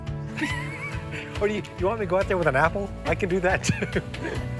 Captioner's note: laughter